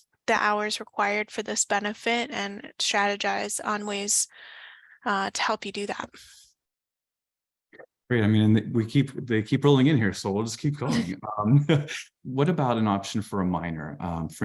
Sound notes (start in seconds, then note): 10.6 chuckles